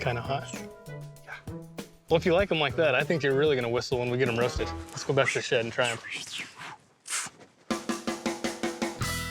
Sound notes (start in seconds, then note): 6.1 whistling